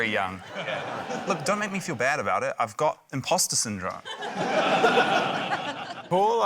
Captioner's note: laughter